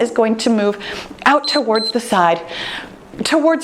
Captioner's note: timer beeps